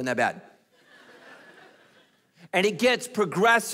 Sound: congregation laughing

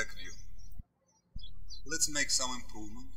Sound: birds chirping

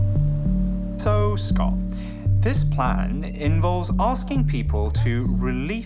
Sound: none

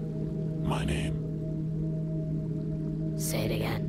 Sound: low Voice

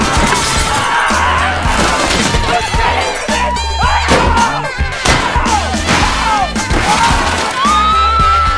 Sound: screams

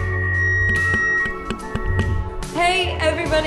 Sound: microphone feedback; tapping on microphone

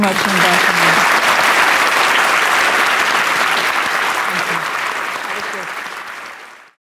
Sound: applause from audience

